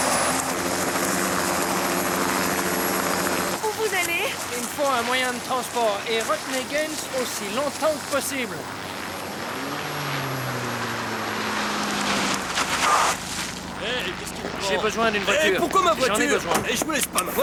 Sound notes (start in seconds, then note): 12.8 tires screaming